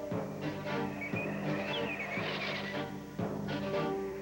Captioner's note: bird chirping